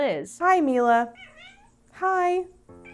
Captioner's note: persistent mewing; meow